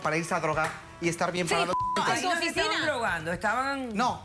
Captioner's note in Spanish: Bip